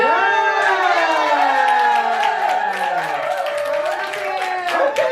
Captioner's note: cheering